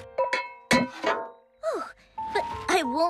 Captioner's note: clank